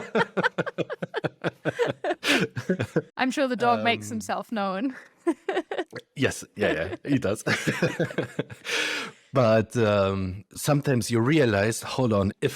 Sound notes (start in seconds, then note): 0.0 both laugh; 6.6 laughs